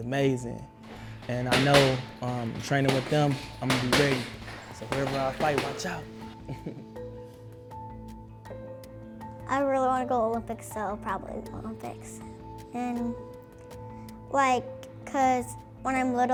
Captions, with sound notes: and I know I'm training with them I'm gonna be great. So, whoever I fight, watch out. (laughter) - I really want to go to Olympics, so-- probably the Olympics. And like-- cause-- when I'm little-- how my dad